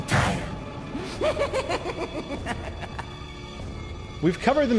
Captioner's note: Salazar laughing